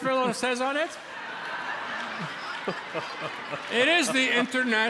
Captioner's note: laughter